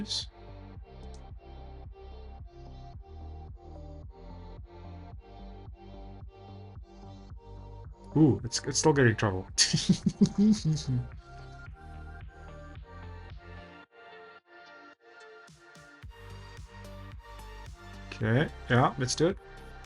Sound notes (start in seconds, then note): 9.6 laughs